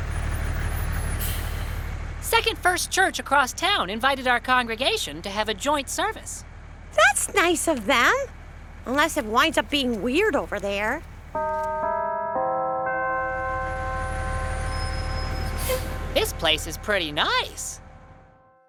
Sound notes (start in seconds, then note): 0.1 bus motor; 11.4 bells chiming